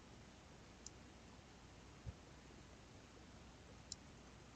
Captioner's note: mouse clicking